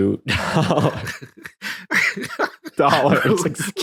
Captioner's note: laughing